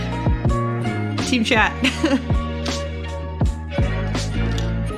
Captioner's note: laughs; laughs